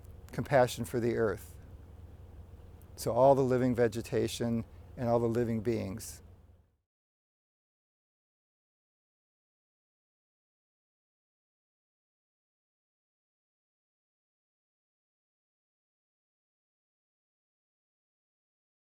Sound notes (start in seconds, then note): 7.4 silence